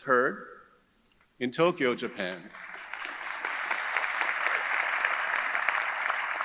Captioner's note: audience clapping